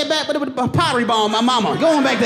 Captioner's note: laughs